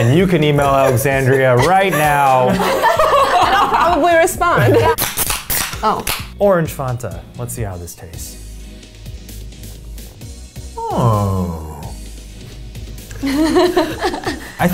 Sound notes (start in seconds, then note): 5.0 soda cans popping; 13.2 women laugh